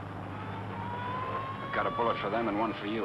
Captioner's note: siren blaring